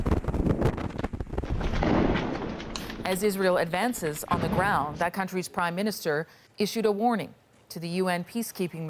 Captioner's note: bombing